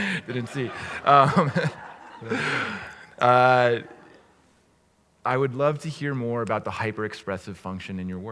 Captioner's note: laugh